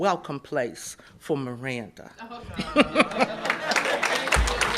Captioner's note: applause